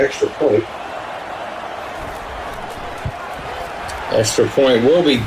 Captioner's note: crowd Noises